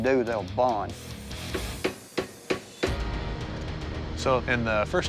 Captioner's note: hammering